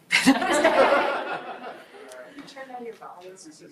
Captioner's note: group laughs